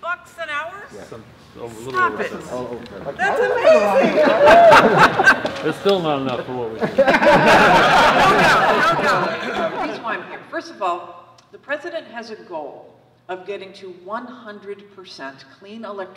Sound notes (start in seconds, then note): 6.4 laugh